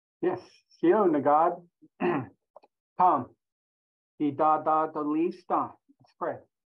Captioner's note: speaking in Native language